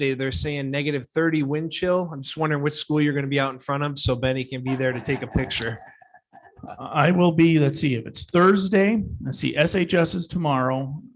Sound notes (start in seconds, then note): 4.6 people laughing